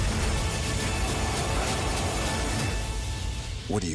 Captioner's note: loud roaring